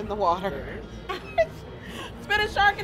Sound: laughs

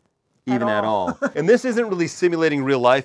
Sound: laughs

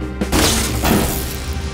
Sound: bzzt; light zapping

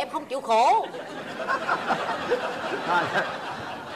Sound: laughing

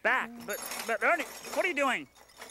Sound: metal items clanking

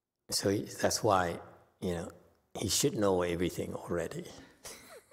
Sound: laughs

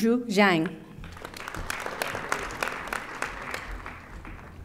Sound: audience applauding

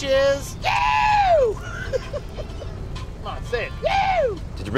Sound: laughs

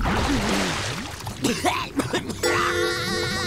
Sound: coughing; laughing

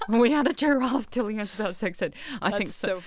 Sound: laughs

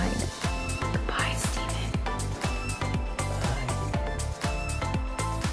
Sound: whispers

